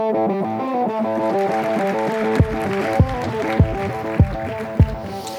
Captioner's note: applause